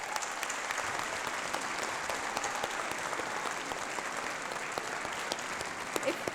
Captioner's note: applause